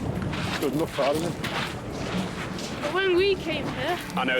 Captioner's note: stones crunch